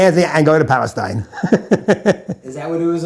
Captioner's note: laughs